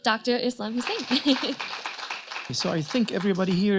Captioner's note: audience claps